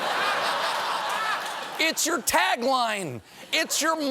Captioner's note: laughter